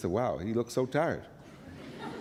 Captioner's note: laughter